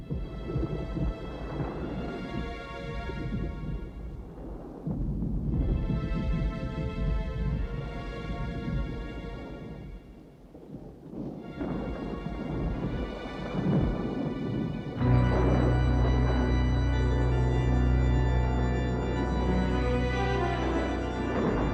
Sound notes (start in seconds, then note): 0.0 suspenseful music; 2.8 thunder rumbling; 14.5 eerie music; 15.1 lightning cracking